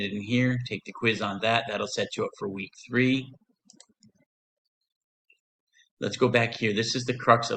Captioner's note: click